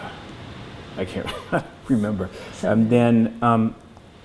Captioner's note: laughs